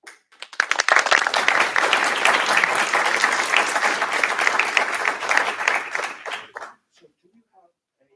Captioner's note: applause